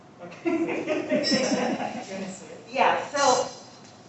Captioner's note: laughter